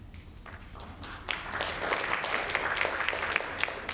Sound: audience applauding

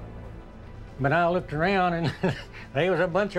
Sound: laughs

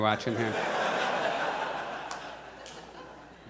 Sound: audience laughs

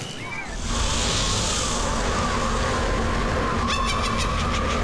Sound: kids screaming; wind; witch cackling

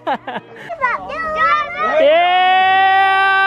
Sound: laughs; cheering

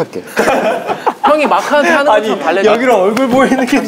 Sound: laughing

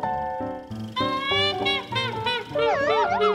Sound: trumpeting laughter; woozy calliope

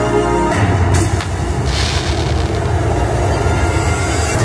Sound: fireworks blast

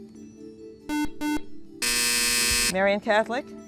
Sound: buzzer

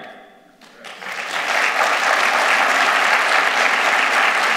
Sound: applause

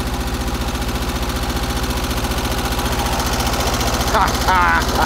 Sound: engine running; laughs

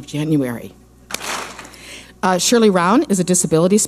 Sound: clap smack

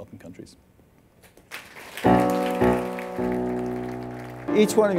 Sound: applause

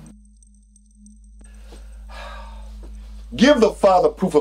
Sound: sighs

